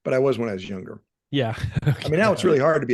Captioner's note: laughing